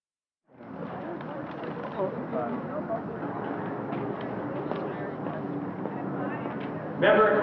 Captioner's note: street and parking lot noise